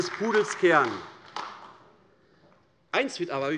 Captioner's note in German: Beifall AfD